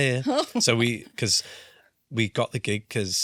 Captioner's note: laughs